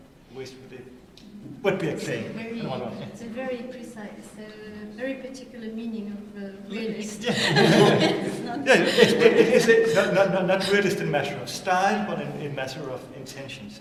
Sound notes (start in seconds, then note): 7.0 laughter